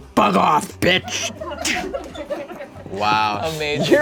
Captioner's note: audience laughing